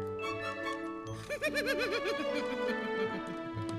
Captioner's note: Olaf laughs; gentle orchestral music